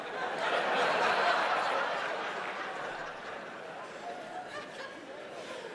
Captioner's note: audience laughing